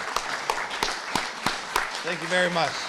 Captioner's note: applause